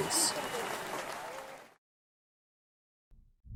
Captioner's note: cheering and applause